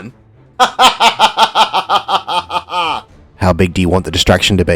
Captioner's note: laughs heartily